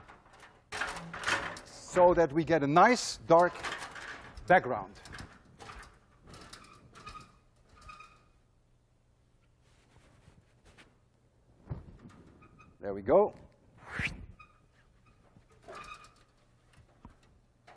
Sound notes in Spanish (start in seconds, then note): 13.9 silbido